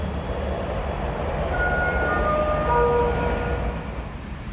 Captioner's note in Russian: сигнал о прибытии поезда